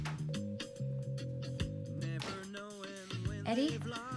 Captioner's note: phone dials